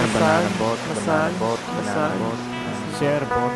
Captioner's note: echo